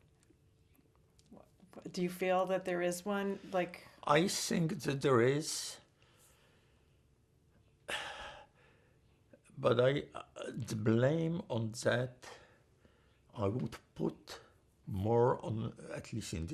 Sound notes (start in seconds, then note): 7.8 sighing